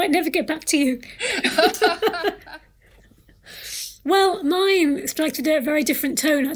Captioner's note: laughter